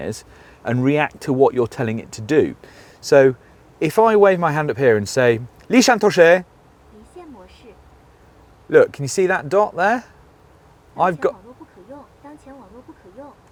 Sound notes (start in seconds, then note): 5.3 speaks mandarin; 6.9 woman's voice replies in mandarin; 10.9 woman continues to speak in mandarin